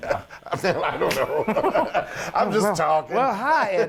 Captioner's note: laugh